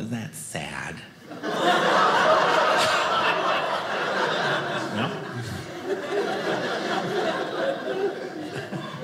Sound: audience laughing

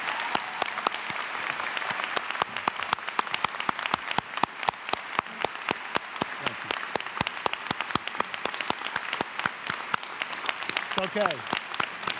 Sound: applause

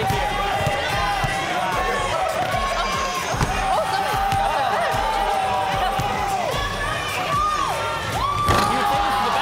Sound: cheering

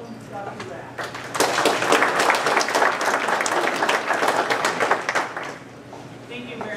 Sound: applause

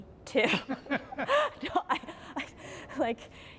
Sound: laughing

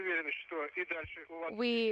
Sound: foreign language

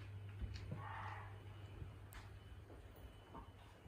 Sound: the sound of animal crying

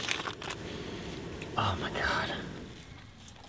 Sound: whispers

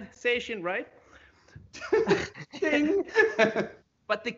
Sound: laughs

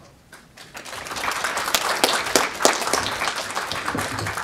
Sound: audience applauding

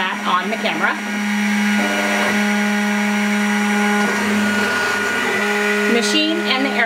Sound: machine whirring

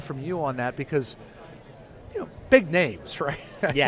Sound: chuckles

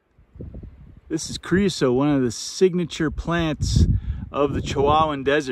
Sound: wind noise

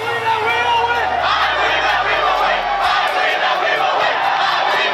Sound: students chanting

